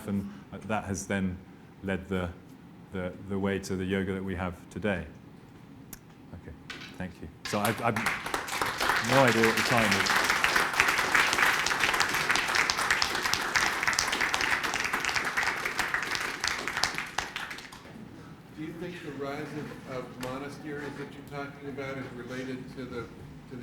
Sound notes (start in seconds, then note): 10.0 applause